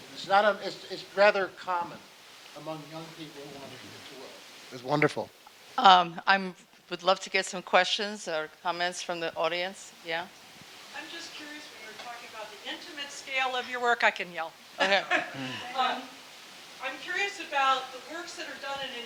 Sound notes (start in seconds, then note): 14.8 laughing